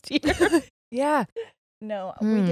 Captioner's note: chuckles